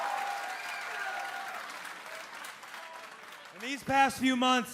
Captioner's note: crowd cheering